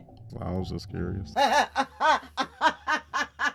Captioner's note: laughs